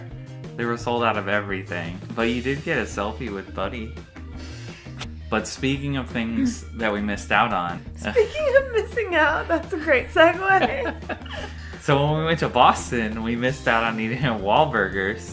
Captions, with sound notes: They were sold out of everything, but you did get a selfie with buddy But speaking of things that we missed out on *laughing* speaking of missing out?! That's a great segway!? So when we went to Boston we missed out on eating at Wahl Burgers